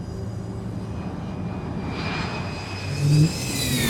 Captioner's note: fighter jet engine roaring